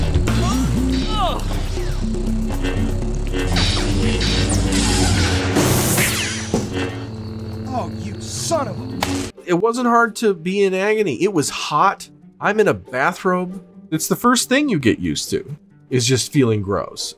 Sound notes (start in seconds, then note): 0.3 groaning in agony; 3.5 sabers clashing